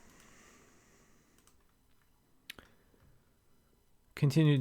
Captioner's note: mouse clicking